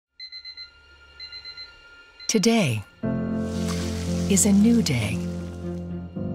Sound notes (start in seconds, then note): 0.2 alarm beeping; 0.3 gentle inspirational music